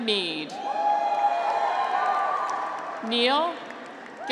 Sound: graduates cheer

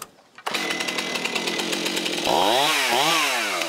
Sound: loud engine hum

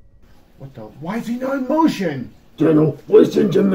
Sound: surprised

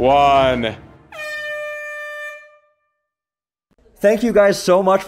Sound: air horn beep

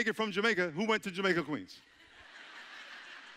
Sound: audience chuckling

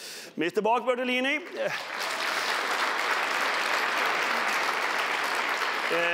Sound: applause

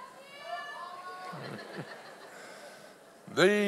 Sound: audience laughs

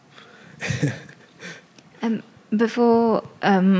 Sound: laughs

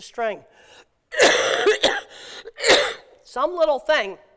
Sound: coughs

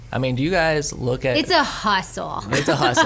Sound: laughs

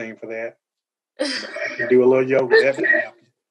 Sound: laughter

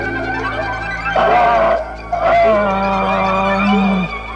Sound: groans

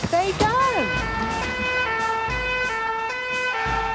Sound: siren sounding

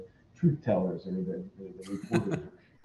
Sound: laughs

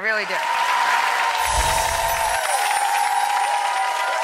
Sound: audience applause

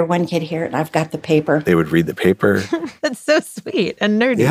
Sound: laughs

